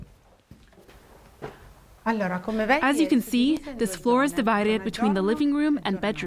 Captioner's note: through translator